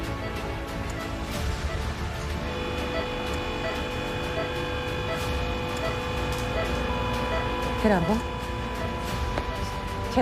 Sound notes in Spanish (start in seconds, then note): 5.2 Ruidos en el monitor; 7.3 Bip sostenido